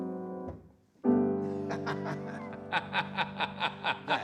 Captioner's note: both laughing